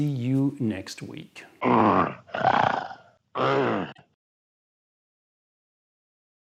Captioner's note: monster growling and snarling